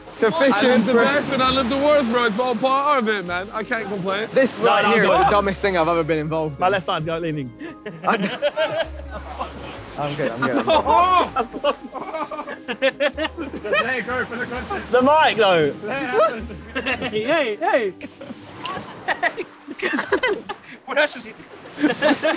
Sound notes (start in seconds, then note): 7.6 Sidemen laughs; 10.1 Josh laughing; 10.8 screams; 17.8 Sidemen laughing; 22.1 waves crashing